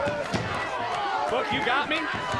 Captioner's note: crowd cheers